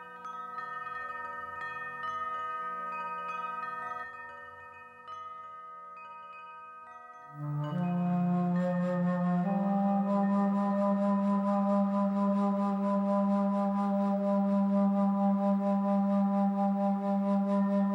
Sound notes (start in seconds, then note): 10.3 chimes